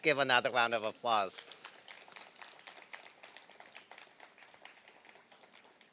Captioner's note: applause